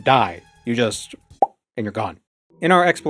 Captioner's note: pop